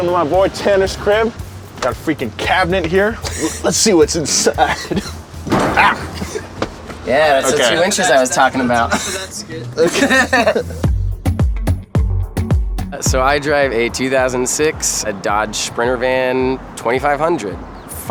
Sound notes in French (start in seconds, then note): 5.7 grognements; 9.9 en riant